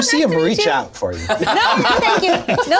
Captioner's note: all laugh